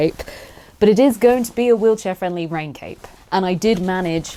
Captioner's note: none